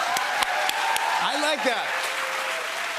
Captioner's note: cheers and applause